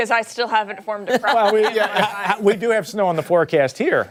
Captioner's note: laughter